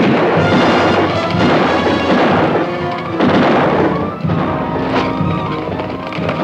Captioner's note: dramatic orchestral music; guns fire